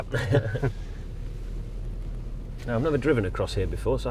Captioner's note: laughing